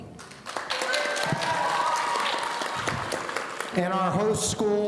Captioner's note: audience cheering